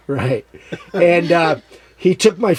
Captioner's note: laughs